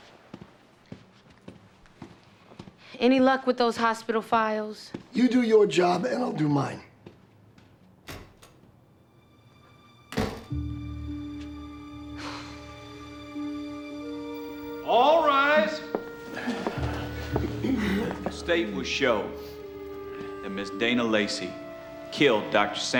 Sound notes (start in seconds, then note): 8.0 door opens, closes; 12.1 sighs